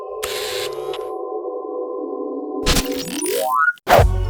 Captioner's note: eerie music; camera focusing